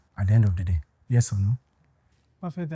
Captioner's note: none